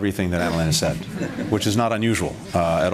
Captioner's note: laughter